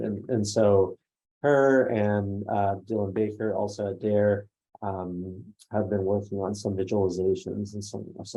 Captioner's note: none